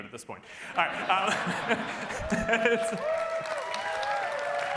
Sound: cheering

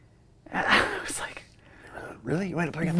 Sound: laughs

